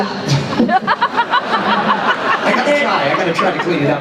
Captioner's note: laughter